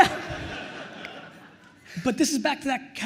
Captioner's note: attendees laughing